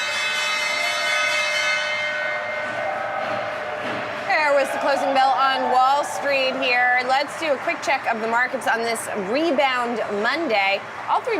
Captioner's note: bell ringing